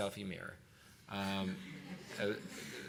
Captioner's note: laughter